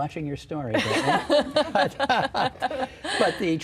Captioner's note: laughing